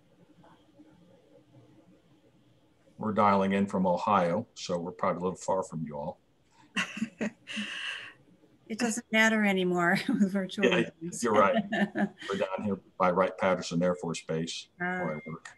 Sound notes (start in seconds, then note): 6.8 laughs; 10.6 chuckles; 12.9 laughs